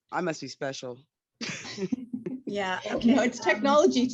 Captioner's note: group laughs